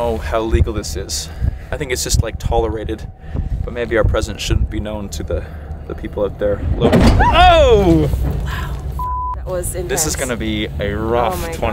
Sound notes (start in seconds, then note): 6.2 clanking; 7.9 squeals; 9.0 beep